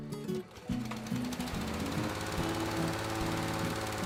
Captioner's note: motor whirring